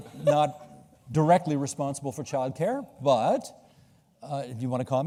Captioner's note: laughter